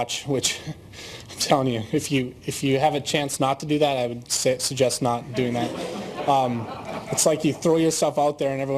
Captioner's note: laughter